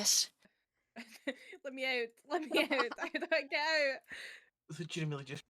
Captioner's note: laughing